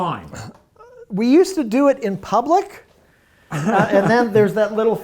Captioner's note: laughing